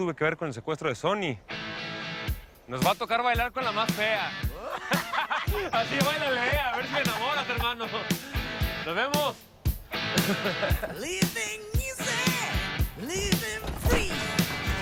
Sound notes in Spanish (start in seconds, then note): 4.5 Risas